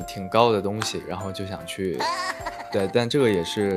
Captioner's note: hahaha